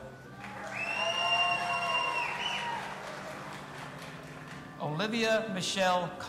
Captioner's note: audience applauding and cheering